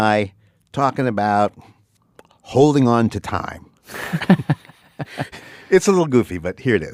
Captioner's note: laughs